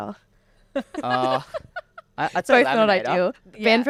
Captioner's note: everybody laughing